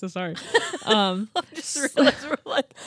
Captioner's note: laughing